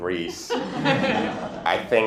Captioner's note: laughter